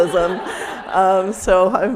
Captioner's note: people laughing